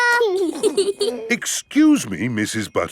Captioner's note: both giggling